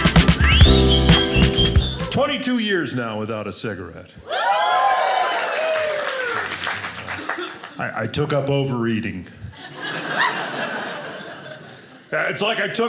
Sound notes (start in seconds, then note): 4.5 audience applauding; 9.6 audience laughing